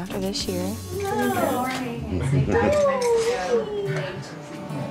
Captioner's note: whines; distant chatter